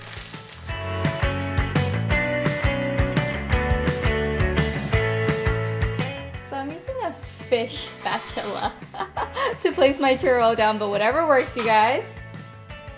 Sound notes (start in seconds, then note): 0.6 upbeat energetic music; 8.7 laughter